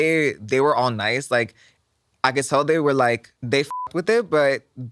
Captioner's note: beep